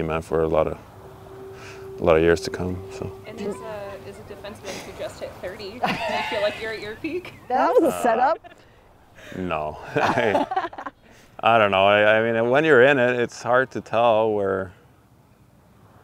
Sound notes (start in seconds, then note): 10.0 laughing